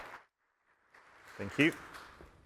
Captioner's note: applause